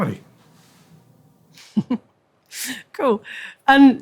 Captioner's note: laughs